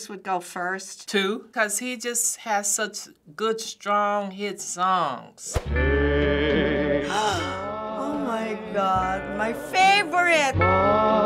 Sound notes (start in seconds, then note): 7.4 gasps